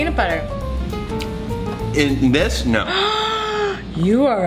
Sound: gasp

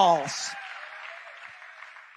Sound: people cheering

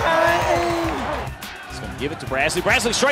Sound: voiceover

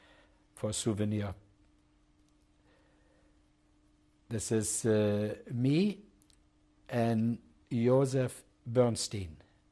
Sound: pauses for 3 seconds

